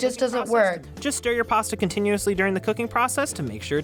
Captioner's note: voice-over